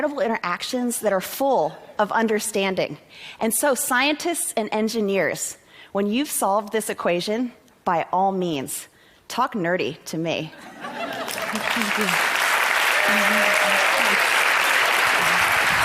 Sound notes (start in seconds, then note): 10.6 laughter; 11.0 applause